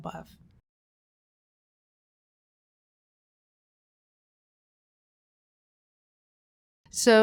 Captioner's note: silence